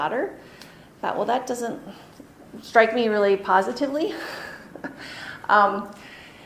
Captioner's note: chuckles